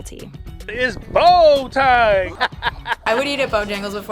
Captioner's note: laughing